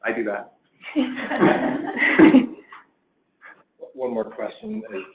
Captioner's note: laughter